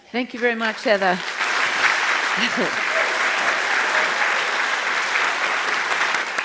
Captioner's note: applause